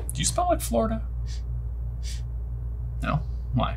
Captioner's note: sniffs